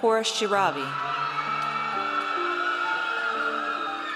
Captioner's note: audience cheers